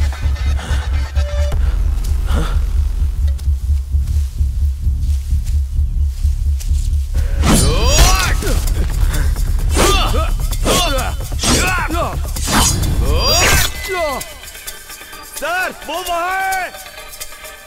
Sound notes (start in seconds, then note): 7.2 sounds of fight and sword swishing